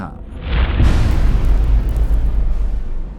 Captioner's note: impact